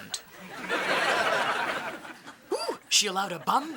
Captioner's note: audience laughing